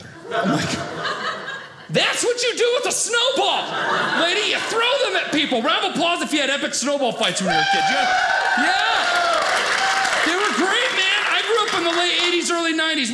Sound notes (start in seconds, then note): 7.4 audience cheers